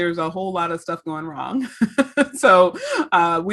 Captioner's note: laughs